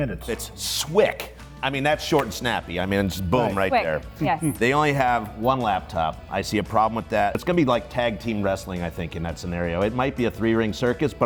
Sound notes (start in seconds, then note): 4.2 laughs